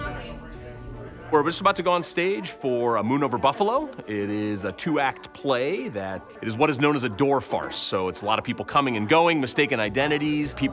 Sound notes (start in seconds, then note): 2.3 chatter